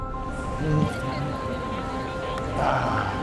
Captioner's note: hums